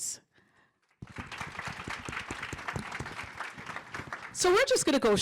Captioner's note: applause